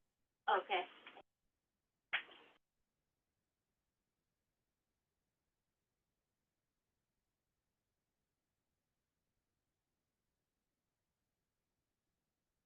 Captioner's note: silence